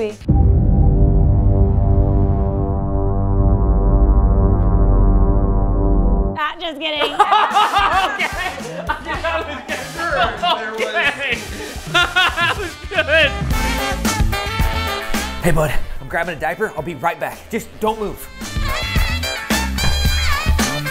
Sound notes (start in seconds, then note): 0.2 tense music; 7.0 laughing anxiously